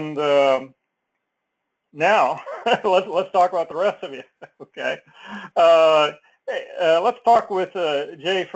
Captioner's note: laugh